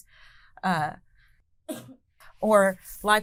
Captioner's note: coughing